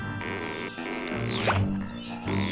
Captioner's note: grunting